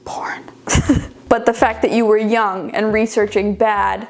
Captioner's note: chuckling